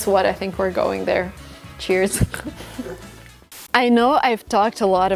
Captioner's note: chuckles